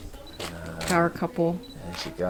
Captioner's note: clicking